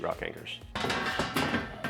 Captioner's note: banging